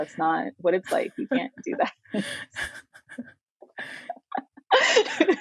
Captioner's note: women laughing